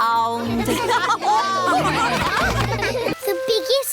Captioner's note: laughter